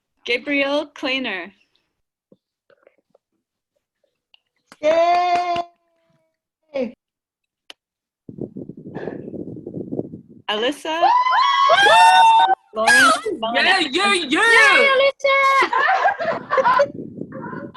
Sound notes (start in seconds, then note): 2.5 cheering; 14.5 cheering